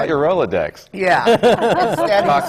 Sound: laughter

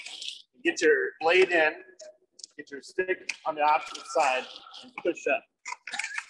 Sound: laughs

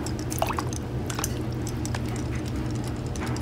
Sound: water splashing; toy clicking

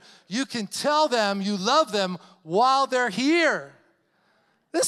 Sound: none

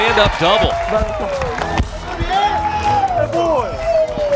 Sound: crowd

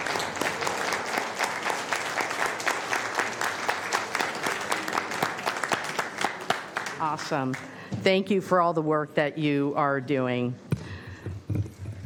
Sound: applause

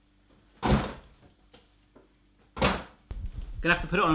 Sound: fridge door closes

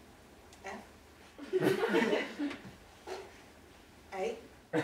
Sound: audience laughing

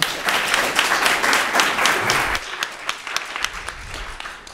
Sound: applause

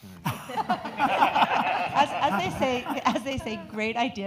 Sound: audience laughing

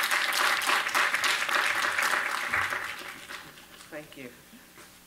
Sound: applause

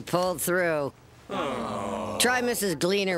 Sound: all groan

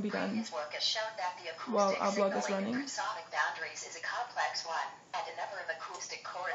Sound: TTS voice

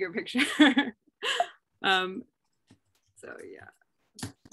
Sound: laughter

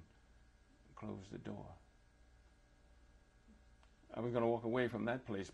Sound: pauses for 3 seconds

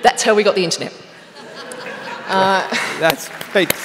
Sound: laughter

